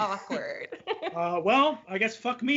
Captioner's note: laughs